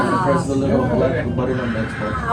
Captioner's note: chatter